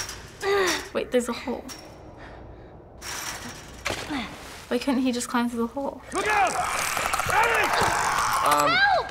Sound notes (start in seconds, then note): 0.0 Ellie grunts; 3.0 gate rattles; 6.5 clicker screeches